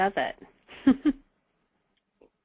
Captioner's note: laugh